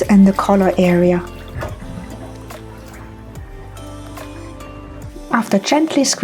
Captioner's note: sound of draining water